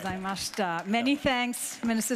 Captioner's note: audience applauds; speaking in foreign language